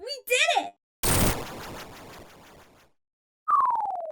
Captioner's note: ledge breaking noise